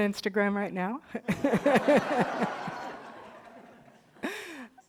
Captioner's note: all laughing